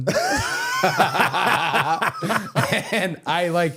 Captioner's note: both laughing